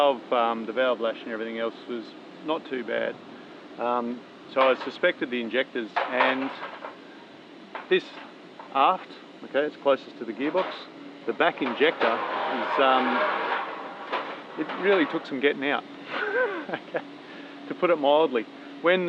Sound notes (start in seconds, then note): 16.0 chuckling